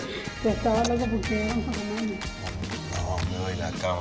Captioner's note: speaking Spanish